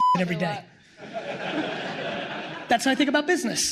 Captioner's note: audience laughing